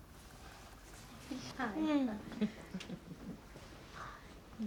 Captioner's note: Da-Som chuckling